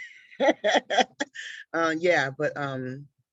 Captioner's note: laughing